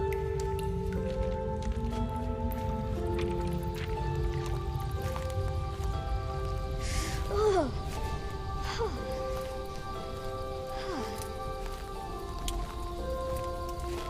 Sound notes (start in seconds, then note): 6.7 shivering; 10.6 fire crackling